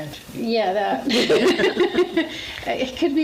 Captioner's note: laughs